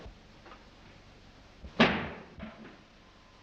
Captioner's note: thud